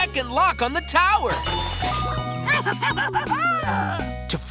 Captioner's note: giggling